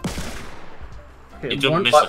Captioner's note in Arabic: نيران المدافع